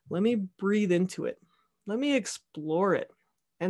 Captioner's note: none